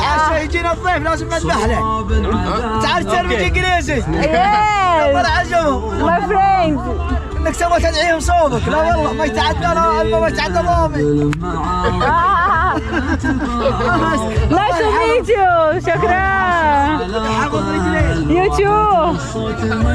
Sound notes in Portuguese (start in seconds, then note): 0.2 em árabe; 7.5 em árabe; 11.7 risos; 19.7 música árabe ao fundo